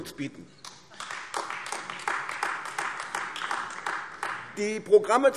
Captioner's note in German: Beifall AfD